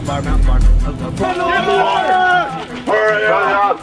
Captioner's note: men yelling